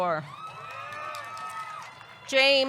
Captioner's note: audience cheering; audience clapping